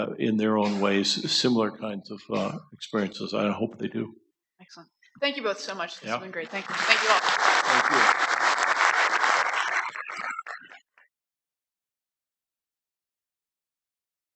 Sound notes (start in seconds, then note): 10.0 applause